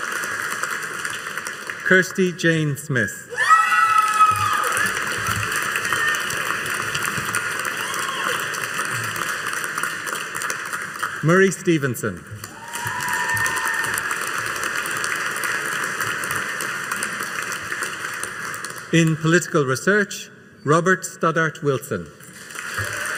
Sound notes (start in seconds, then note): 3.3 audience cheering and applauding